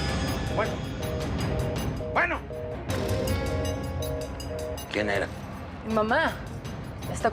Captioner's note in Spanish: sonido de línea ocupada